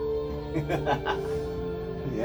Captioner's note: laughs